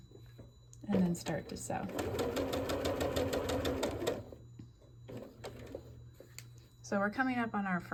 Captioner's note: sewing